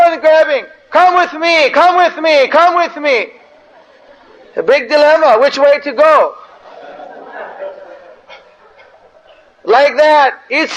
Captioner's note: devotees laugh